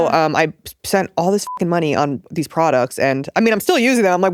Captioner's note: beep